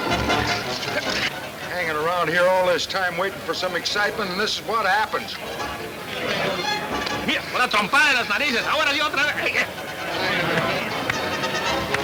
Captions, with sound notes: - Hang around here all this time, waiting for some excitement and this is what happens. (speaking Spanish)